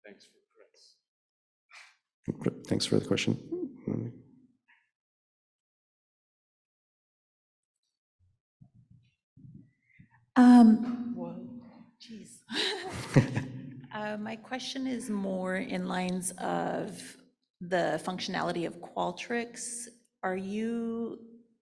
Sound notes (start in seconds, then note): 12.7 laughs